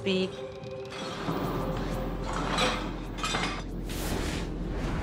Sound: objects clattering

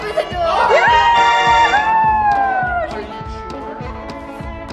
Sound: cheers

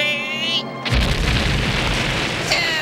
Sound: explosion

